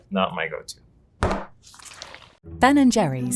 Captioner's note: tub thudding